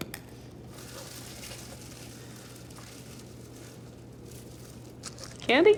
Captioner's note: wrappers crinkling